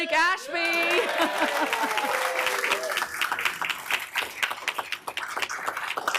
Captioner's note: applause